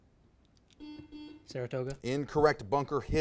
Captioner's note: buzzer buzzes